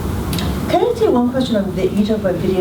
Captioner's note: voiceover